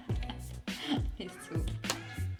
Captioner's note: laughs